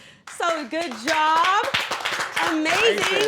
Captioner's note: all applaud